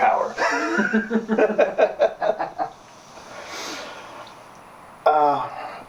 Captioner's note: Sterling and Ramon laughing